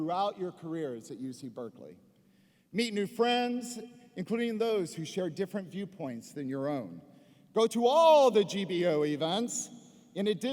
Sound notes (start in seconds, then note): none